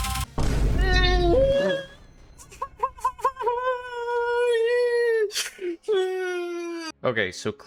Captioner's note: pathetic sobbing